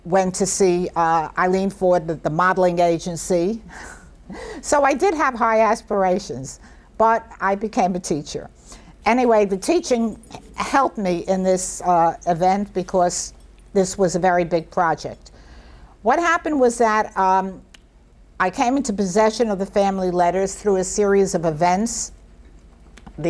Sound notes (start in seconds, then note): 3.8 chuckles softly